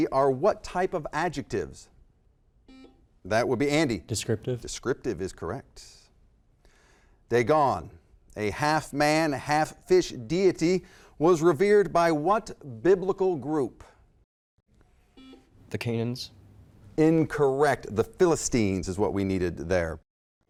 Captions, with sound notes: are what type of adjectives? (buzzer) That would be Andy. Descriptive. Descriptive is correct. Dagon, a half man, half fish deity was revered by what biblical group? (buzzer) The Canions. Incorrect. The Philistines is what we needed there.